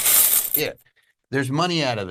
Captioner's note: coins clatter